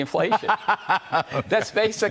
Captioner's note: laughter